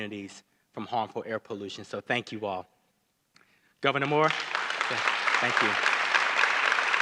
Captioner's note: applause